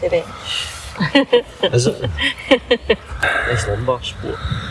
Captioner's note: laughter